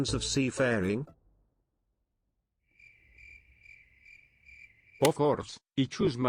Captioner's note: silence